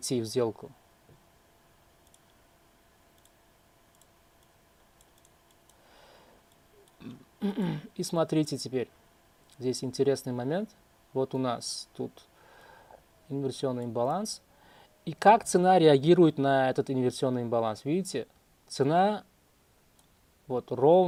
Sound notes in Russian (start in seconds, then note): 4.1 откашливается; 7.0 кашель